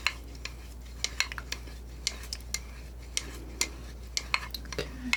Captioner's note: scratching